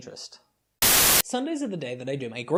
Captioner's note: Static